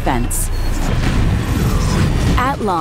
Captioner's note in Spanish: explosión